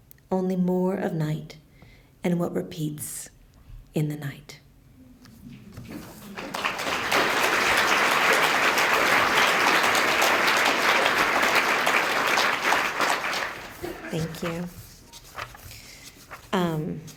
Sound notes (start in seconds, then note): 5.8 applause